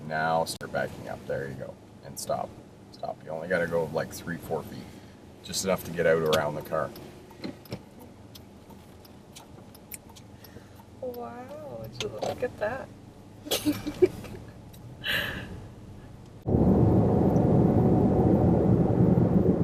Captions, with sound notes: Now start backing up, there you go, and stop. Stop, you only got to go like three, four feet. Just enough to get out around the car. - Wow, would you look at that? (laughs)